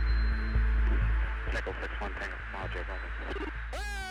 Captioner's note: man on recording